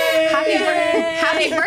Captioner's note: cheers; party horn